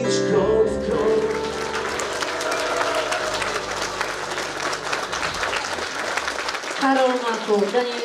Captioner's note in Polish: oklaski